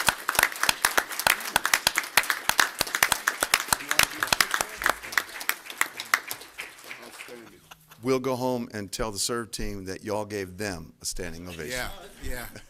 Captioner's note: applause